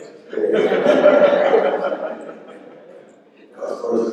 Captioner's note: laughter